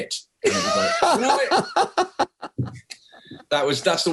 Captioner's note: laughing